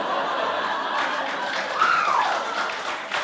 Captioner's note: applause